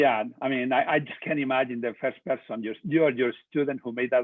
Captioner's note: murmuring